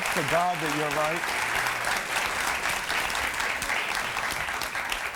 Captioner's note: applause